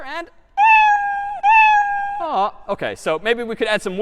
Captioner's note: meowing